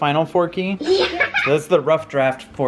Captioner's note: laughs